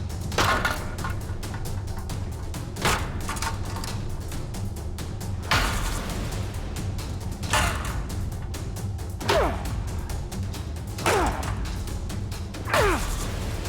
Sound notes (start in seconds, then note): 0.1 clanking; 9.1 grunting